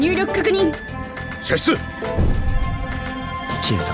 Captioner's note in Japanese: 射出音